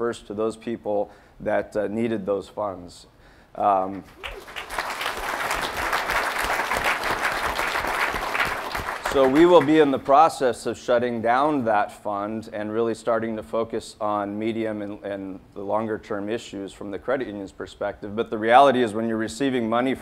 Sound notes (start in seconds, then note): 4.0 audience applauding